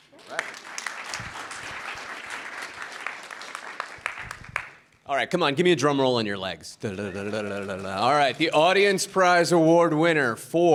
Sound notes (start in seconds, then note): 0.0 audience applauding; 7.0 mimicking drum roll